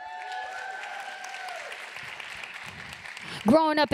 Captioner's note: applause